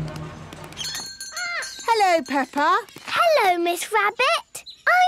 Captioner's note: bell jingling